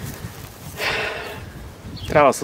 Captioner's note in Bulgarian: Въздишка